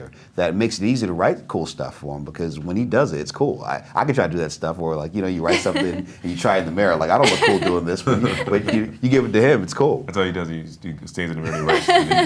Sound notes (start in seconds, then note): 7.1 laughing